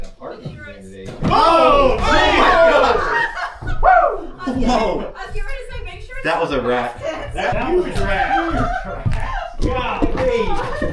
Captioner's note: yelling